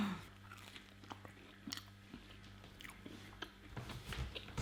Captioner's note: chewing